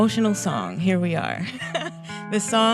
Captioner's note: laughs